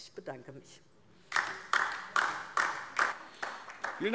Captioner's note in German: Beifall DIE LINKE